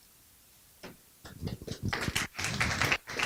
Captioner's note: applause